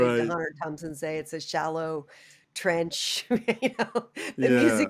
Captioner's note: laughter